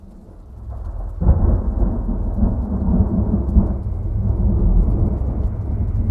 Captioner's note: muffled explosion booming